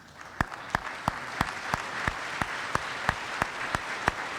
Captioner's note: applause